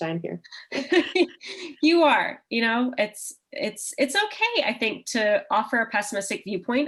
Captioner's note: laughter